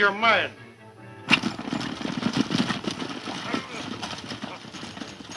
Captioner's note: horses galloping